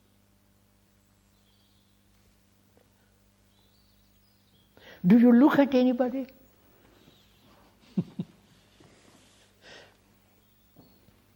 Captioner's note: laughs